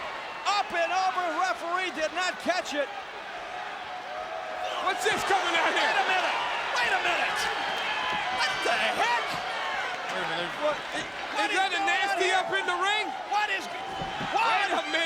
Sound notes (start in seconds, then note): 8.0 crowd cheering; 14.1 crowd cheering